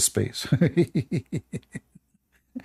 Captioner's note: Ketawa